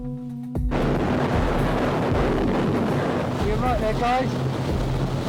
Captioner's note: winds blustering loudly